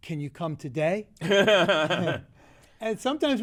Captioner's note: laughs